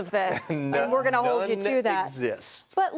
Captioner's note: laughter